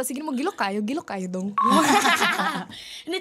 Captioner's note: both laughing